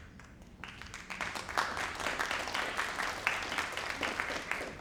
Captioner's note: crowd applauding